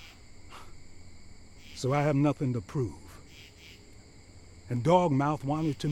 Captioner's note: scoffs